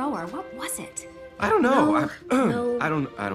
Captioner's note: clears throat